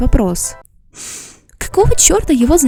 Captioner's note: angry inhale through nose